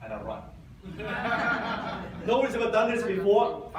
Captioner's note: audience laughs